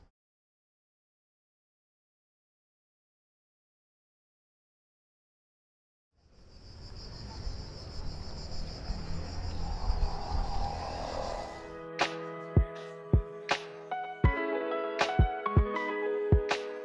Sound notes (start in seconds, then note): 6.2 crickets chirping; 11.6 upbeat music